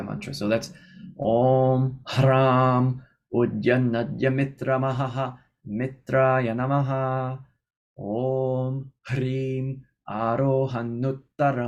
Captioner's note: chanting